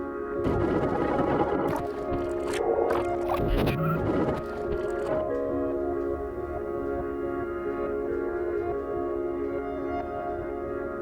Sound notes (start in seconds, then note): 0.5 tape rewinding